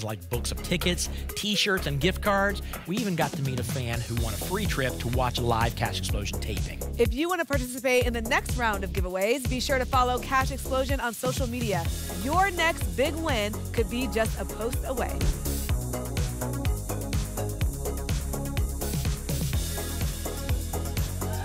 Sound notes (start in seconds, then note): 15.2 whoosh